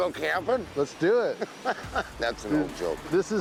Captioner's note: laughs